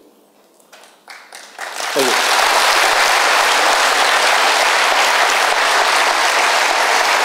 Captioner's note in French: Applaudissements